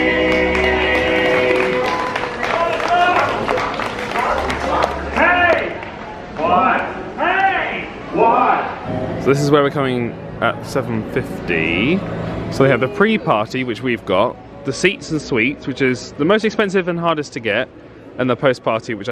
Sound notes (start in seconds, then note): 0.0 spectators clap